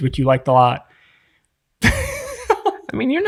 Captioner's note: innocent laughing